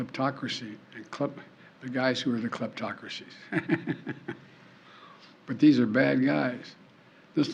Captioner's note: laughs